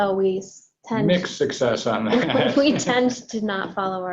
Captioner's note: laughs